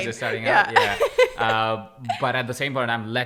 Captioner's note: laughter